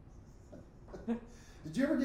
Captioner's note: both laughing